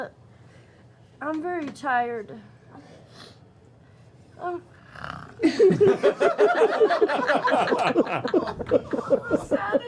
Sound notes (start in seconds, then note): 4.8 snores; 5.4 laughter